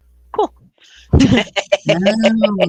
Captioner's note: laughing